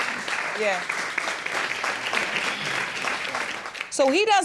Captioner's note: audience applauds